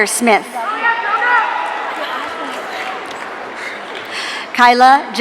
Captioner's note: audience cheering